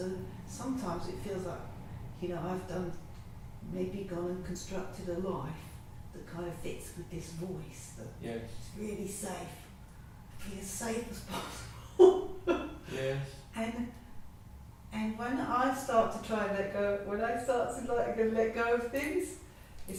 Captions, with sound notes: And so, sometimes it feels like.... I've done, maybe gone and constructed a life that kinda fits with this voice. Its really safe, can be as safe as possible (laughing) And, when I start to try and let go, when I start to let go of things